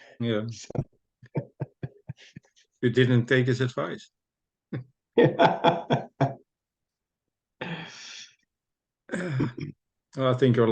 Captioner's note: laughs